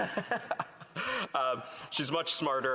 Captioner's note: laughter